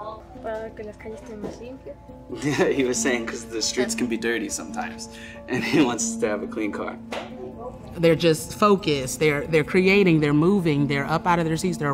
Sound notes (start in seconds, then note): 0.6 student speaking Spanish